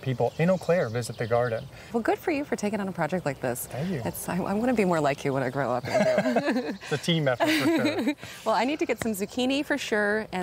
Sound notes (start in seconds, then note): 5.8 both laughing